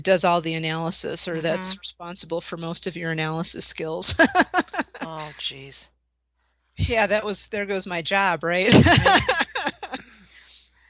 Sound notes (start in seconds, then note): 4.0 laughter